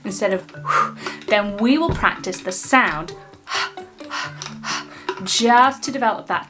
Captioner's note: puffing